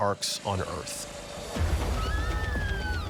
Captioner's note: woman screaming